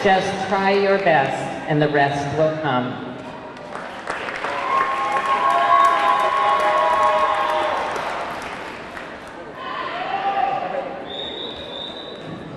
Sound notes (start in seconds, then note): 3.5 audience clapping; 3.8 audience cheering